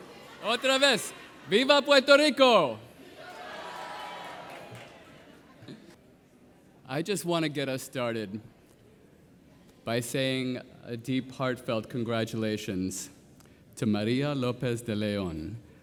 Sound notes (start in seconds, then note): 0.2 speaking Spanish; 4.6 audience cheering